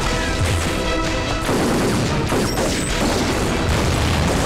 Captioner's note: Rapid gunfire